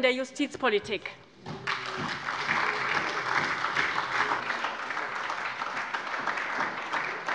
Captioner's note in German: Lebhafter Beifall bei der SPD